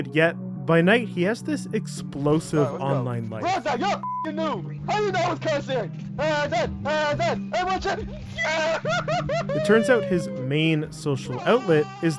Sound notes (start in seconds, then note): 4.0 beeps; 9.4 cheers